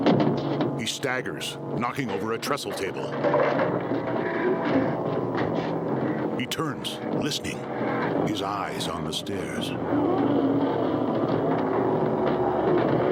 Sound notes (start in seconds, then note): 2.7 table clattering; 5.9 banging in distance